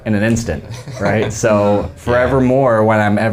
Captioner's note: laughing